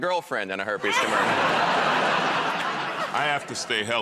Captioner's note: laughter